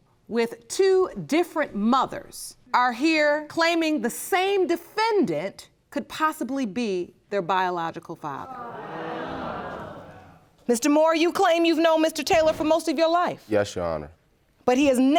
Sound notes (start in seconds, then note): 8.4 audience groaning